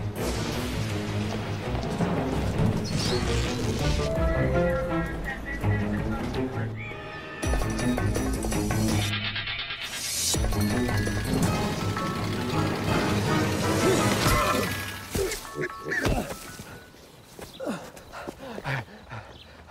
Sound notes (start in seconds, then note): 7.7 bionic sound effect; 18.1 panting